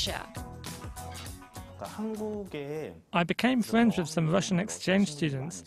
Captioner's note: Korean